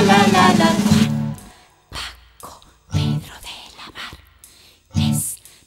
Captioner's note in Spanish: Susurrando